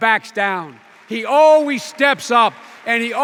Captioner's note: applause